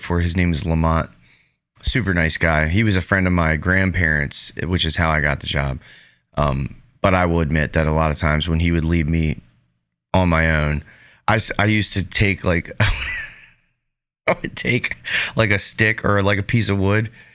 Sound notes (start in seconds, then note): 12.8 laughing